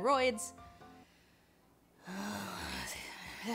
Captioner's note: long, frustrated sigh